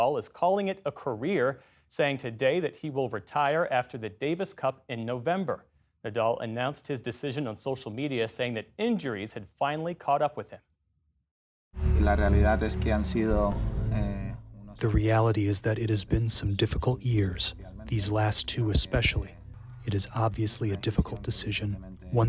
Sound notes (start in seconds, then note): 15.3 through translator